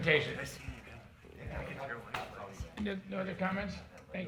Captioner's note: people murmuring